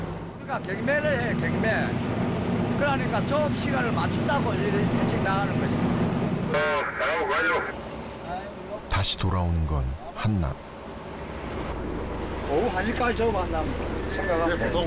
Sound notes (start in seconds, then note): 8.8 sound of a radio